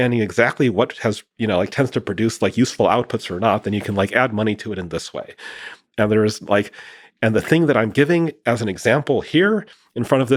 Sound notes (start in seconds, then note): none